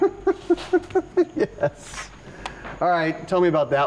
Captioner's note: laughing